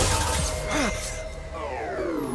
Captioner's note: suspenseful music; laser blasts; suspenseful music; gasps